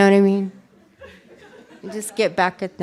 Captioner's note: laughter